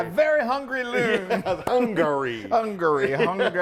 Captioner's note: laugh